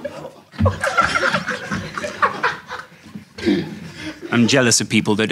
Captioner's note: audience laughing; Sidemen laughing